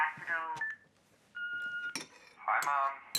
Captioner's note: machine beeping